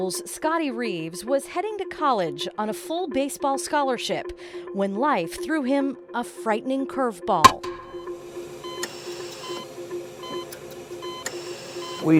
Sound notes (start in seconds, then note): 7.4 baseball bat clanking; 7.4 vital sign monitor beeping